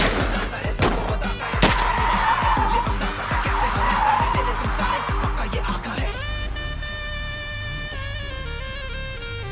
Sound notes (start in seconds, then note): 1.6 gunshot